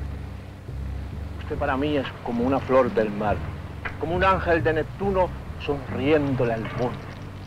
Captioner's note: General Tostada speaking in Spanish